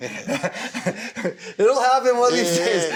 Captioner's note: chuckles